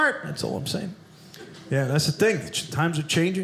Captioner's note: none